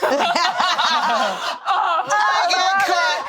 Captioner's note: all laughing